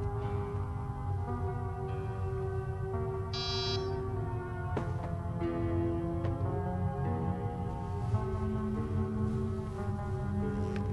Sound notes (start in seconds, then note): 3.3 door buzz